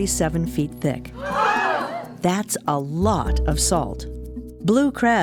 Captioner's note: sound of voices shouting in surprise